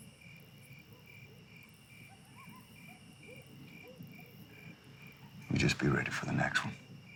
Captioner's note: crickets chirping